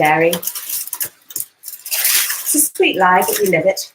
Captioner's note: paper crinkles